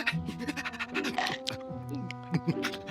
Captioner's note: panting